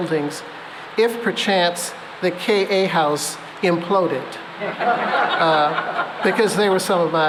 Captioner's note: laughter